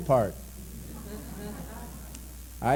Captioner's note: laughter